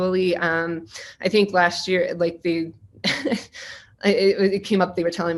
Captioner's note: laughing